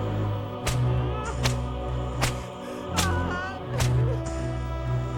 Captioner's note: off-screen beating with whip